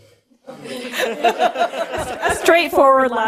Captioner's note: audience laughter